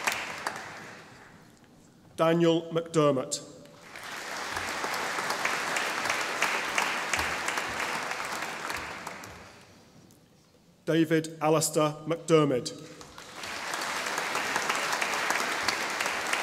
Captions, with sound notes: Daniel McDermott (audience applauding) David Alastair MacDiarmid (audience applauding)